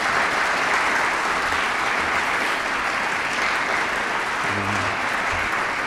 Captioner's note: audience applauding